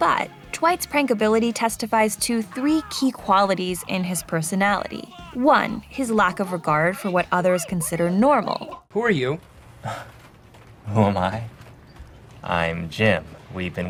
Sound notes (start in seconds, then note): 9.8 laughs